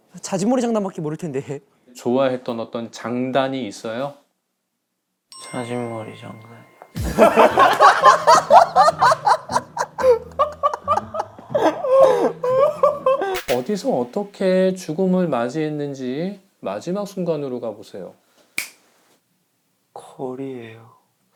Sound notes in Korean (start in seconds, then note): 10.3 꺼이꺼이; 10.3 엉엉